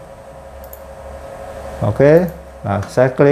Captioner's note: clicking sound